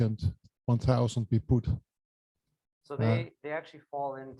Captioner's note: foreign accent